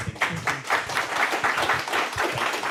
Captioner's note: applause